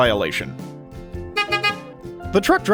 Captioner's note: beep beep